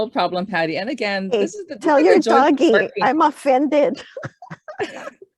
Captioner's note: laughs